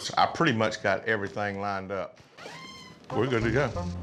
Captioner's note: door squeaks open